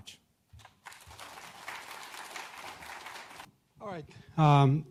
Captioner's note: audience applauds